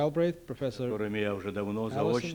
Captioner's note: non-english speech